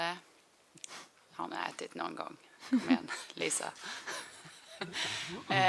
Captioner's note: laughs